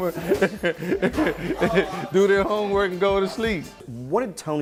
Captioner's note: laughs